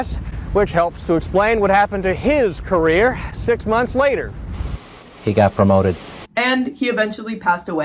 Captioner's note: deadpan